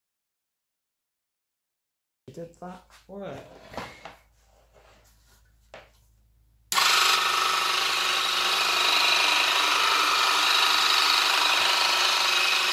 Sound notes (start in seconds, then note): 1.4 turns on - vibration noise of motosaw